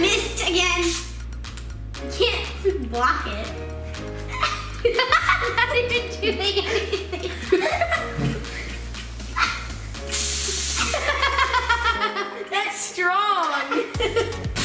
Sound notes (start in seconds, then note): 4.2 laugh